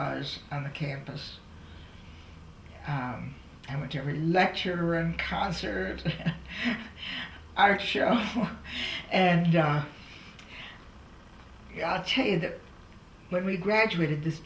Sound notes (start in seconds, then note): 8.3 laughs